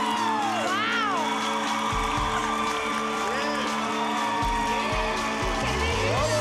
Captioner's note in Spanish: continúan los aplausos; exclamaciones